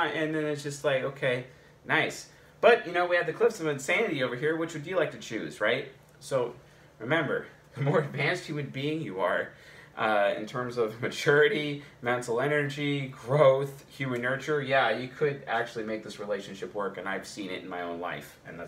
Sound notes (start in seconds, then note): 7.8 chuckles